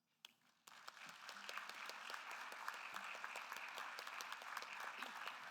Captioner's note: attendees applauding